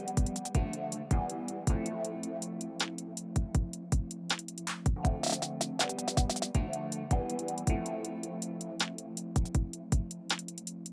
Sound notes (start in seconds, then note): none